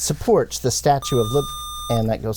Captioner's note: buzzer